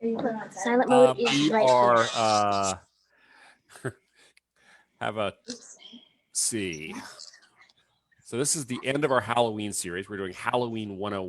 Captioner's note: chuckles